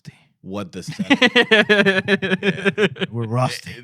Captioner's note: laughter